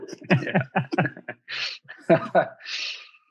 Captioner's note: all laughing